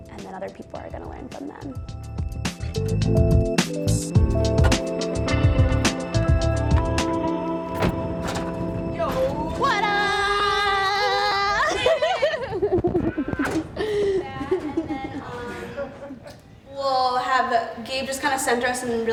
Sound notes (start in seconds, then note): 3.1 upbeat music; 11.2 chuckling